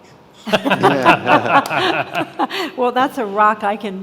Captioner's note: all laughing